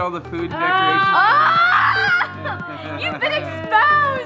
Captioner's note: laughs